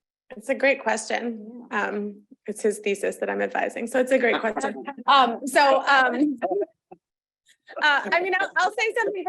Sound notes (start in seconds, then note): 4.3 panelists laughing